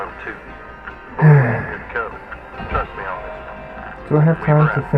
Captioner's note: sigh